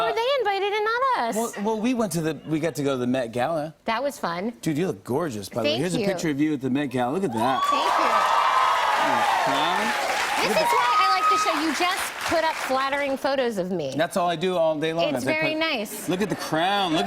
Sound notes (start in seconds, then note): 7.3 cheers and applause